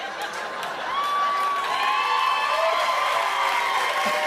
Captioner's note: laughter and applause